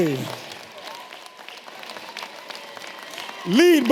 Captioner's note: audience clapping and cheering